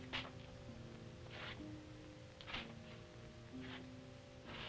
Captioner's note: Popoca shuffling